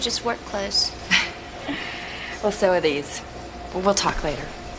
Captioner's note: chuckling